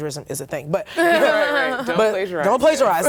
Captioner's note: laughter